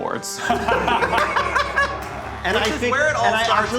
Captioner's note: group laughing